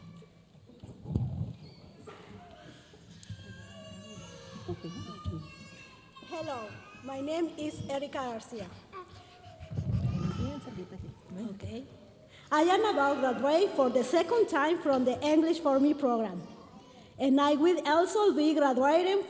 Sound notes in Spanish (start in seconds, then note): 6.3 hablando en inglés; 12.5 hablando en inglés